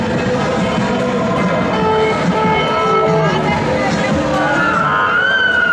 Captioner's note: BART beep, sirens, drumming and metallic banging